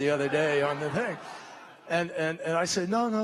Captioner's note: laughter